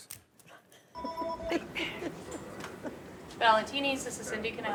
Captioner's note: phone rings; laughs